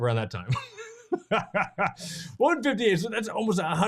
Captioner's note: chuckling